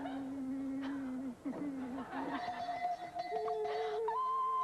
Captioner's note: bell■rings